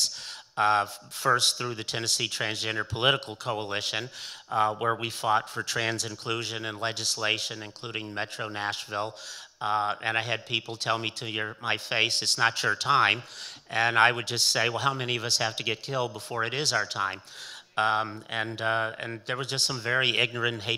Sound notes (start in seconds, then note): none